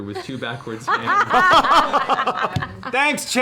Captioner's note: laughter